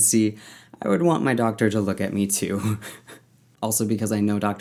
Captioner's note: laughs